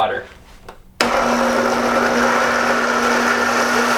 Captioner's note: whirring